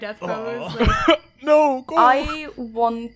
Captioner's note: laughing